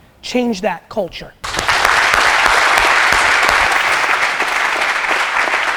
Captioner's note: group applause